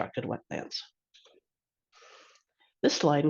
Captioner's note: pause